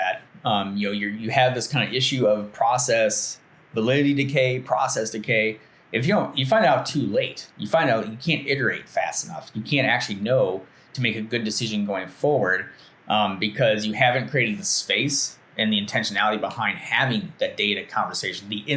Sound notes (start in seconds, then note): none